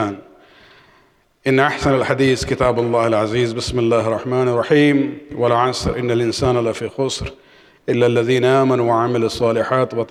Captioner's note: arabic